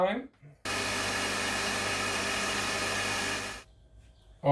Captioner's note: blender grinding